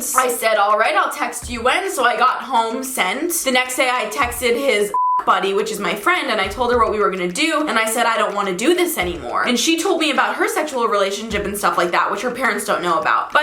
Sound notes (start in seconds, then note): 4.9 beep